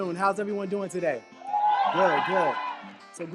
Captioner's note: crowd cheers